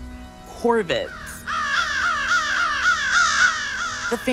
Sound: flock of crows cawing

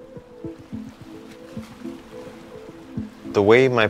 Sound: water trickles

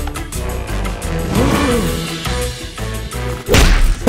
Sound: gasps

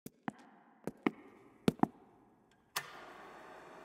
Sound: footsteps clicking; machine lightly whirring

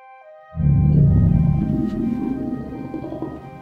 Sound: big low growl of eeriness

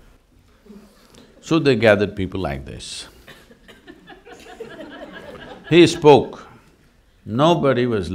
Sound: laughter

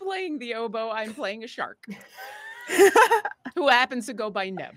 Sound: laughs

